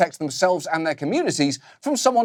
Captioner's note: none